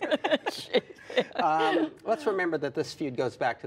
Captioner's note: laughter